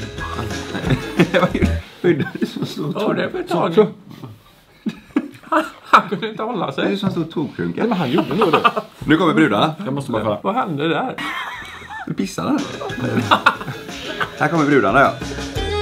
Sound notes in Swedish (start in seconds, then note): 0.1 skratt, nonsens-ljud; 4.8 skratt; 11.2 skratt